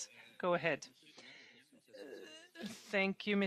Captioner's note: speaking French